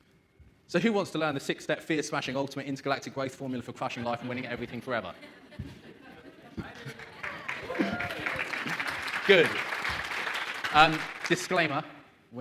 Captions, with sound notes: So who wants to learn the six step fear smashing ultimate intergalactic growth formula for crushing life and winning at everything forever? (audience laughs) (audience claps) Good, disclaimer,